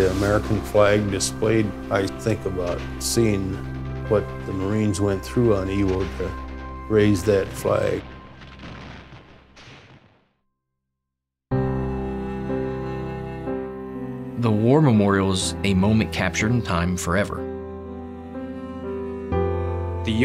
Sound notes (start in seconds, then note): 8.4 gunfire